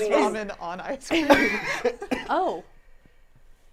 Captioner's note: all laughing